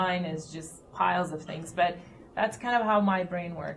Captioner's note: none